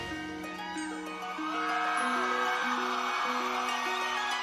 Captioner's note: audience cheering